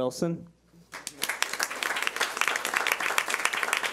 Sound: clapping

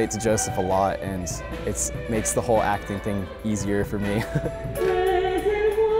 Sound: laughs

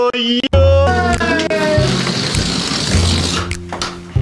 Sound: balloon deflates

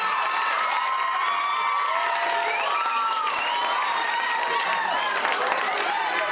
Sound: audience continue to cheer and applaud

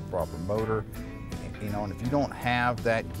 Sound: none

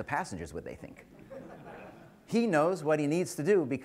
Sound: laughter

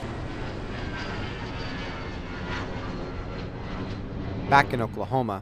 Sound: nats: airplane landing

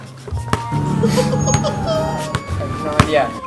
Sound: laughing

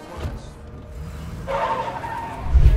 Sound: tires screeching

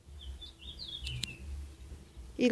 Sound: sound of birds

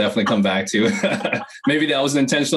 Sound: laughs

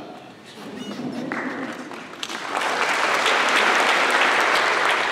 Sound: applause

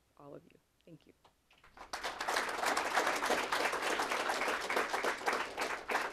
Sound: applause

